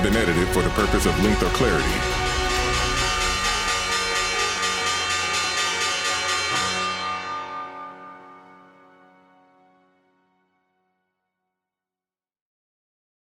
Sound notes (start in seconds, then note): 2.6 bell ringing; 2.6 upbeat music